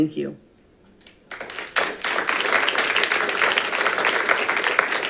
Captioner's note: audience applauding